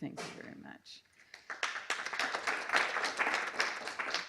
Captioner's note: applause